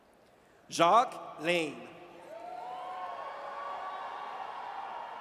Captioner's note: audience cheers